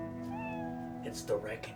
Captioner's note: cat meowing